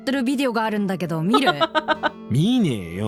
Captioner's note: chuckles